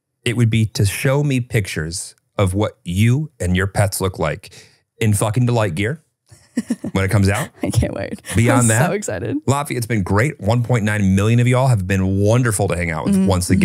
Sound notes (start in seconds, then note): 6.6 chuckles